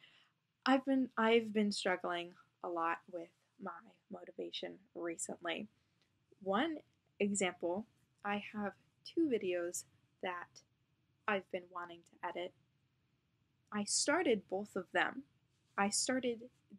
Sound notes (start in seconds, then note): none